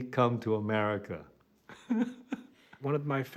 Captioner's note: chuckles